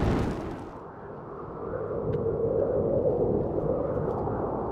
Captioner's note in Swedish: vinden blåser